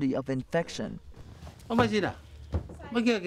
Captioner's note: background Foreign Language